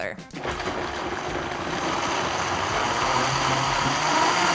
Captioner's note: blender whirling